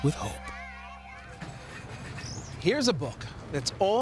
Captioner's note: children screaming playfully